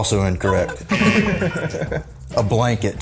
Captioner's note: laughs; buzzer; laughs